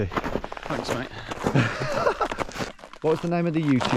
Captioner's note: laughing